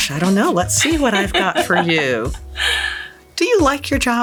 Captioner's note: laughing